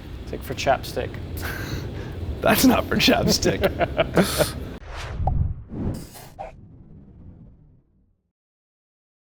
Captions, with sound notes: It's like for chap stick. - That's not for chap stick. (laughing) (pop)